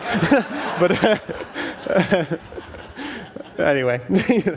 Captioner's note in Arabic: ضحك